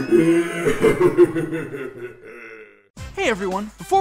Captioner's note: Darth Vader sobbing